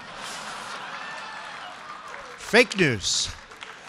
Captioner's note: laughter